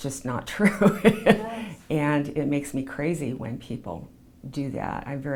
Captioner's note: laughs